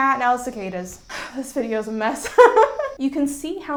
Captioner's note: laughs